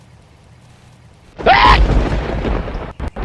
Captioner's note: HL Scientist Scream